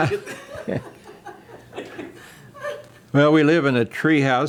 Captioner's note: laughing